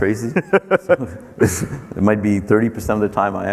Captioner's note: laughing